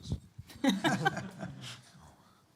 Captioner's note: laughter